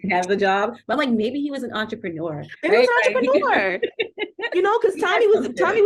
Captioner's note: laughter